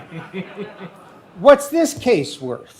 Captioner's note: laughing